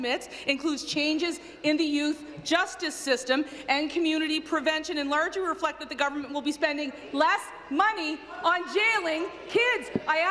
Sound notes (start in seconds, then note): none